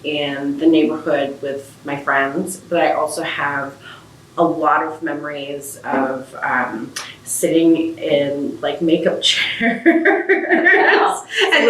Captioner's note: laughs